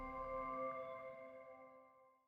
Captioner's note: typing